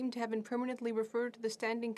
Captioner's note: speaking French